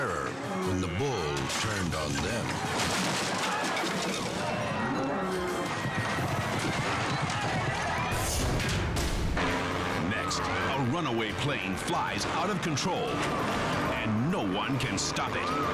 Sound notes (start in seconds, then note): 3.4 wood thudding; 4.3 people shouting